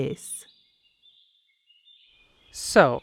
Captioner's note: forest ambience